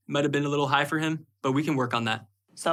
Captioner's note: none